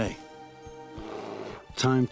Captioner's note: bear growls